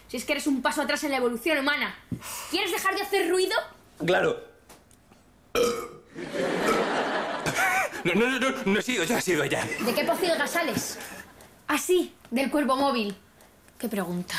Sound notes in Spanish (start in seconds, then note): 5.5 eructa